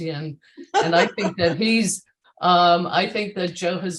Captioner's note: laughs